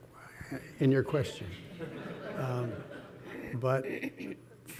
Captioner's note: audience laughing